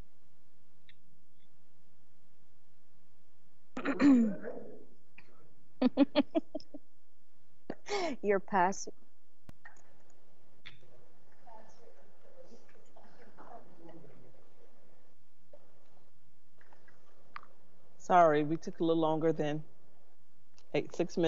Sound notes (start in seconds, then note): 5.8 woman laughs; 11.5 people chattering